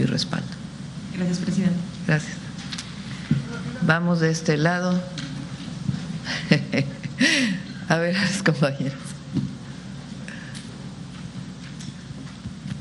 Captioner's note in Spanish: risas